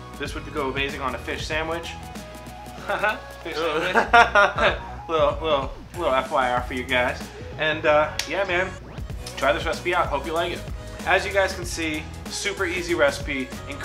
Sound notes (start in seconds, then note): 3.5 laughs; 3.6 chuckles